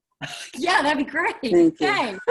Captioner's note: laughs; chuckles